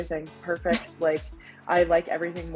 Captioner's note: chuckling